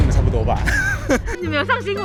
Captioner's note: laughs in stress